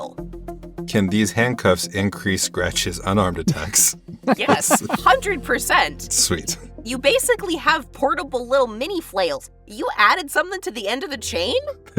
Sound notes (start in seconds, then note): 4.1 HANS chuckles